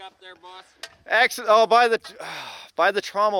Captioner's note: exasperated sighing